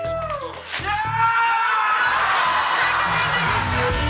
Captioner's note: all yell